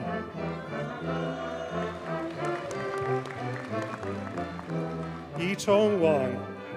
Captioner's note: audience cheers and applauds